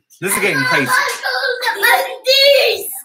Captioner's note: shouting